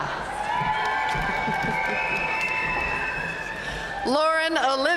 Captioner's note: audience cheering and applauding